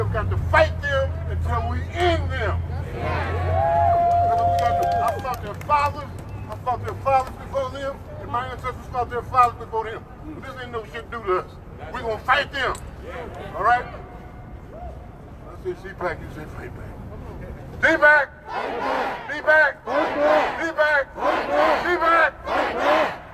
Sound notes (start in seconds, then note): 2.9 crowd cheers